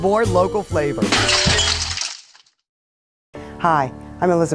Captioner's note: glass breaks